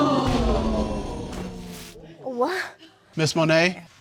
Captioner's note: audience gasping